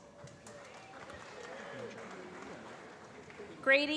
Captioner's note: applause